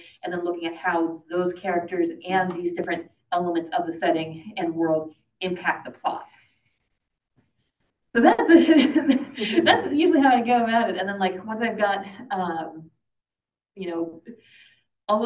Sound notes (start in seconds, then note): 8.7 laughs